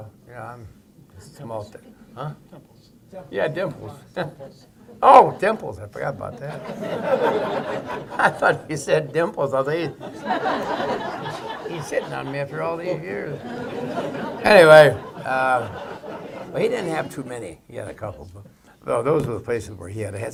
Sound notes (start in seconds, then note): 7.3 laughter